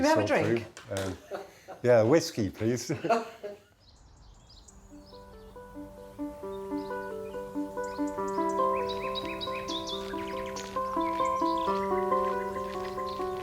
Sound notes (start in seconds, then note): 1.0 laughing; 2.9 birds chirping; 4.8 gentle instrumental music